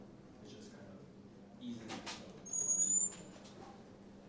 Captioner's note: door creaking